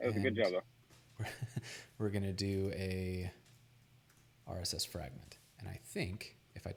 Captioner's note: laughs